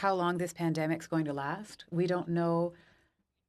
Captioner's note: speaking French